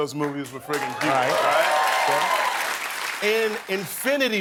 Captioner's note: applause